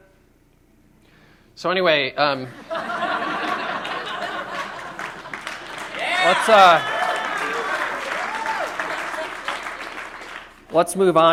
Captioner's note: laughter